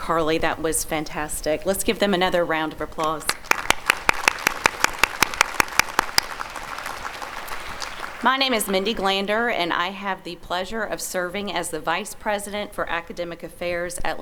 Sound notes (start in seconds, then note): 3.0 applause